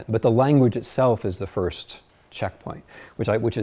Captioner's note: none